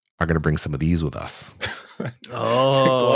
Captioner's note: laughter